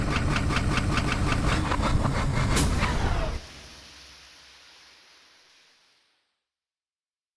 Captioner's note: machine whirring to start up; machine breaking down